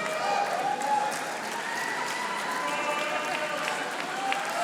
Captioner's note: audience applauding